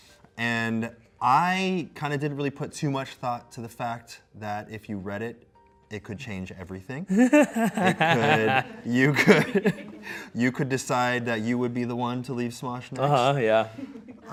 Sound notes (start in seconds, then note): 7.1 laughs